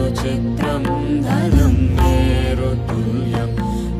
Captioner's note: none